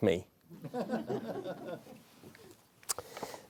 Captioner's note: laughter